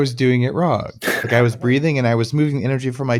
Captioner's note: light laughs